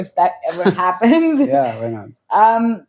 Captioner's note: laughs